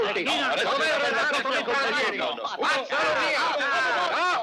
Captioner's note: chattering